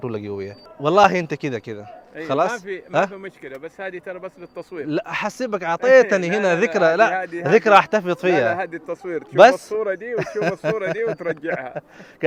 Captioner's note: Arabic